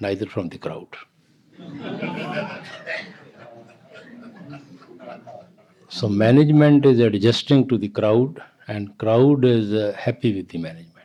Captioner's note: laughter